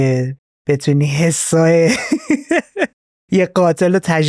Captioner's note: laughs